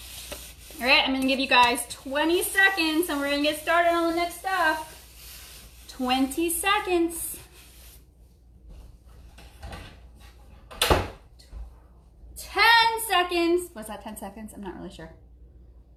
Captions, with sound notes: All right I'm gonna give you guys 20 seconds and we're gonna get started on the next stuff. 20 seconds. (door bangs) 10 seconds. Was that 10 seconds? I'm not really sure.